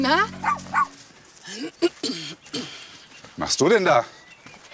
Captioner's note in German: Sie räuspert sich